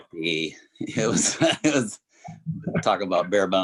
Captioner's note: Clifton chuckles